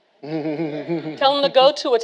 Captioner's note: all laughing